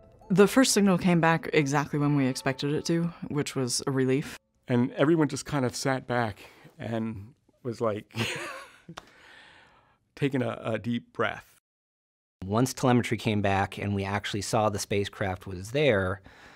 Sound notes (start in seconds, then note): 0.0 mysterious music; 8.2 laughs